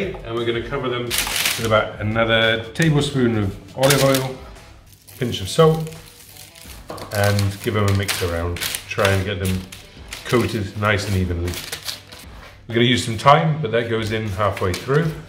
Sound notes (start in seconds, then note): 1.1 parchment paper crinkles; 5.9 salt taps onto paper; 8.0 parchment paper crinkles